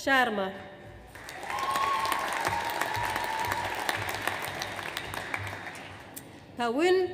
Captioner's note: audience applauds; audience cheers